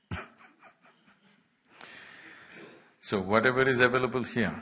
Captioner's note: laughs